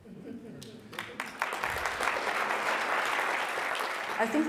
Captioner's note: applause